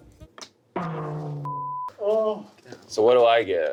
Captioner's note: beep